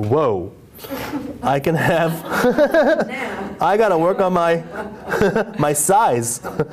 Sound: laughter

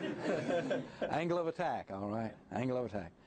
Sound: laughter

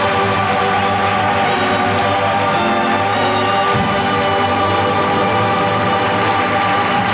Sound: audience applause

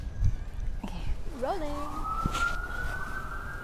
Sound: sirens

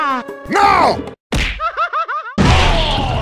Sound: smack

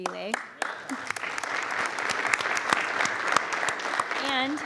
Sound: crowd clapping

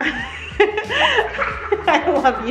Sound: both laughs

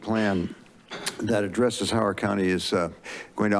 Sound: clicks tongue

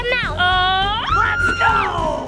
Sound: screaming

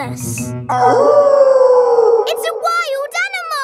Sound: wolf howling loudly

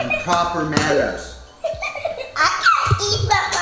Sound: laughing

